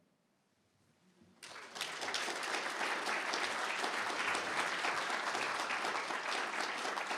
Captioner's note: applause